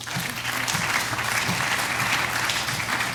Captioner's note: applause